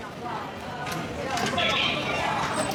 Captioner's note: gates opening